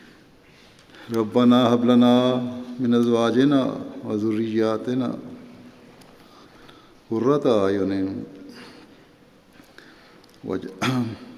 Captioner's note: Arabic